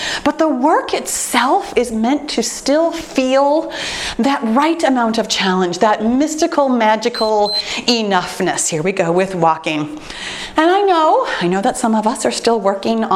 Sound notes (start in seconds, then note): 7.0 timer beeps